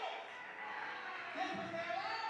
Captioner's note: cheers